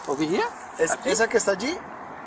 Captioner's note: officer speaking in foreign language